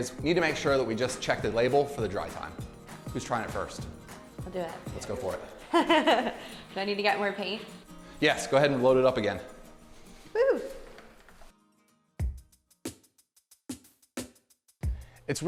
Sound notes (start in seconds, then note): 5.7 laughs; 10.3 cheers; 12.1 gentle pop music